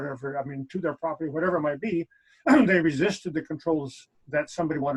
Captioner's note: clears throat